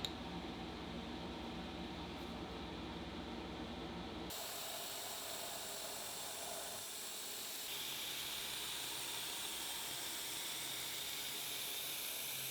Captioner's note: machine whirring